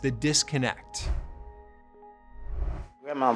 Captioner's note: graphic whooshing